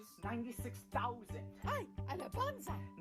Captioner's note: speaking spanish